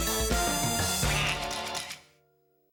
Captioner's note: quacks